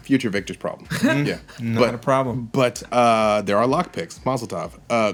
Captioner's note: laughter